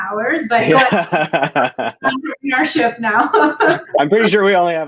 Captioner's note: laughter